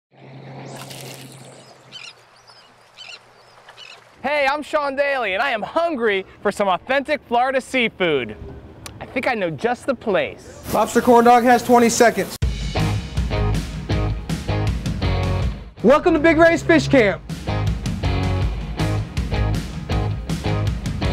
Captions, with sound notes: (seagulls calling) - Hey, I'm Sean Daly and I am hungry for some authentic Florida seafood. I think I know just the place. - [Voiceover] Lobster Corn Dog has 20 seconds. (invigorating guitar music) - Welcome to Big Ray's Fish Camp! (invigorating guitar music)